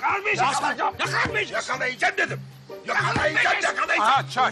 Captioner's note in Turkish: Karşılıklı bağrışmayı sürdürürler